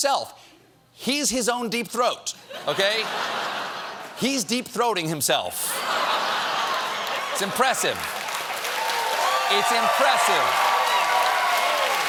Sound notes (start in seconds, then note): 5.6 laughter